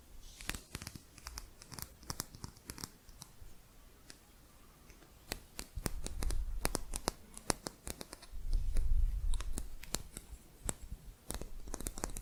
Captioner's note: quick tapping